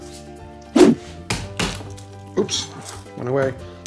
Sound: knife smashing garlic

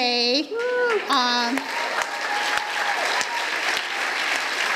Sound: audience cheers

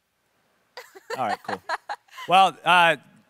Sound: laughing

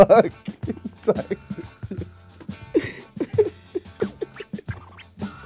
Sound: laughing

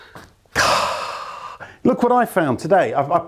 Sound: sighs heavily

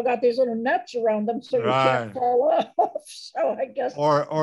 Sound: laughs

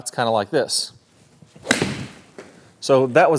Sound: golf club swinging

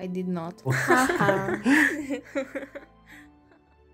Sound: laughter

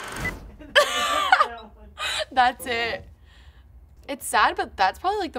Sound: film clicking; laughing

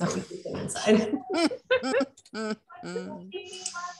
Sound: all laughing

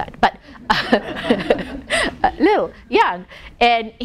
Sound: laughing

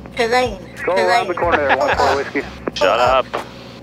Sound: electronic Voice

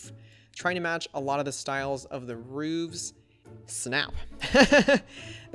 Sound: laughs

